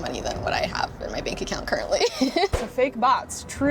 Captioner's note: laughs